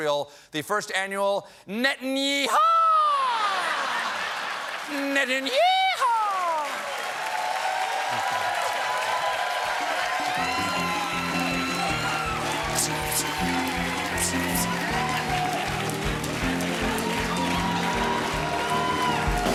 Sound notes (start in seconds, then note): 3.3 laughter; 9.4 cheers and applause; 10.3 piano riff